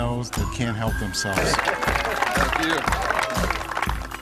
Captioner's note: applause